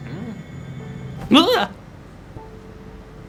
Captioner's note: yelp